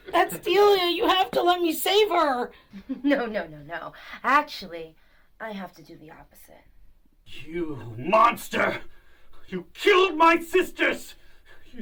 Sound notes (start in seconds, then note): 2.7 laughs